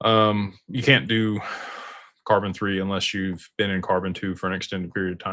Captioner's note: sighs and gasps